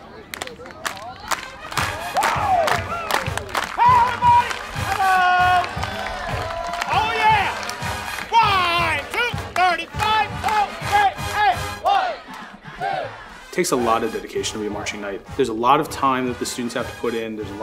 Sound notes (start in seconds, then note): 0.0 chatting; 0.2 clapping; 5.8 cheering